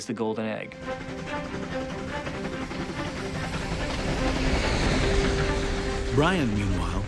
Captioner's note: train chugging